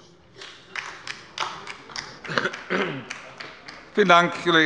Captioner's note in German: Beifall bei der LINKEN